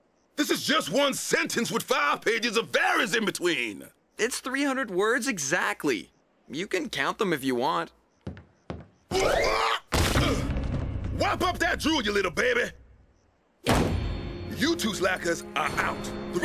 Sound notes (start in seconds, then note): 9.9 thudding; 13.6 Chef Banging on Table